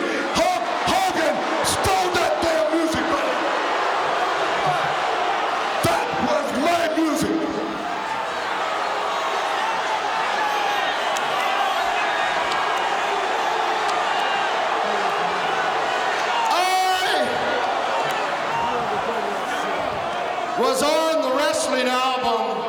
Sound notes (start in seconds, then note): 7.6 audience shouting